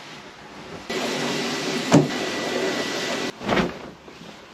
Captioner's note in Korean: 청소기 소리